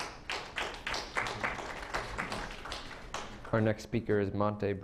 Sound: clapping

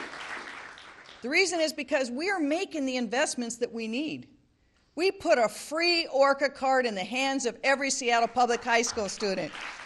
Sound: applause

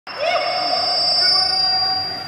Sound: microphone feedback

